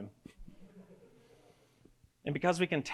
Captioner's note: audience giggles